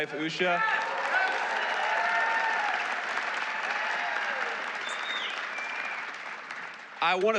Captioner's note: applause